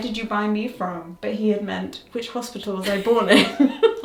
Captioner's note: laughs